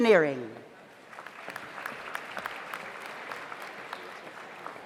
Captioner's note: audience applauds